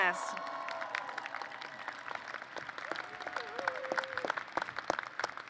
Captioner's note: applause